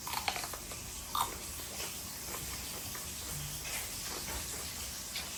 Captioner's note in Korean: 아삭아삭